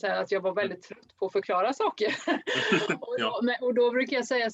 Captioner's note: Skratt